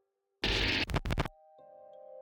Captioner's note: static